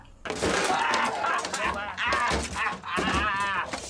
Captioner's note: cries